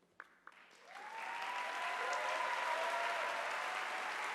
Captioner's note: audience applauding